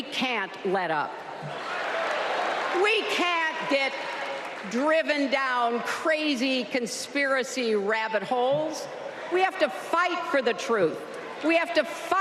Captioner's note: applause